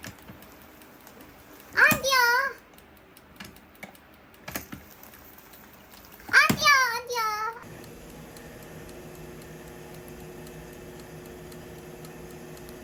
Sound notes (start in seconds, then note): 2.4 sizzle sizzle snap snap bubble bubble snap snap